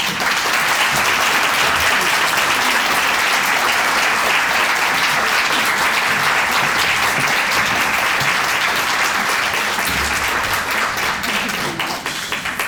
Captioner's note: applause